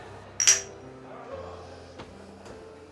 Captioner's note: clinking; soft music